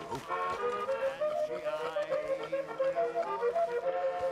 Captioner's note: Dutch and Molly laugh